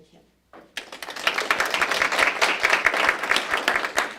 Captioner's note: applause